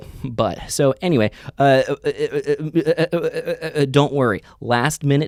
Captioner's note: stutters